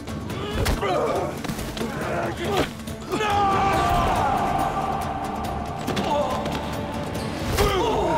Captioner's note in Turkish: Dövüş sesleri